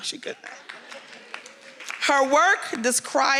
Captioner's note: attendees applauding